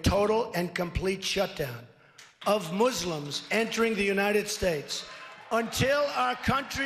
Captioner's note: cheers